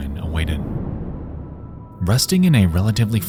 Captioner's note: air whooshes